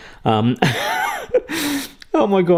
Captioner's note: laughing